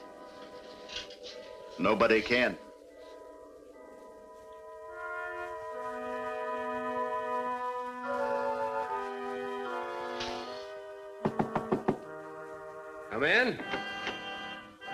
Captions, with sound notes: Nobody can. [knocking] Come in.